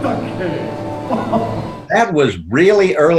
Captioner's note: laughs